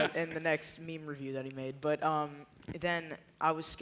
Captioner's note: laughter